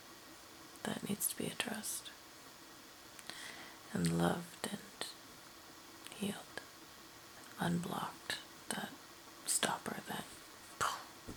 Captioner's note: mimics explosion again